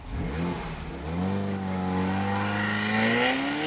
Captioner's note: car rumbling